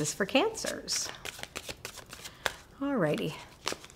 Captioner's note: cards shuffling